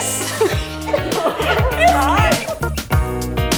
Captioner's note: laughing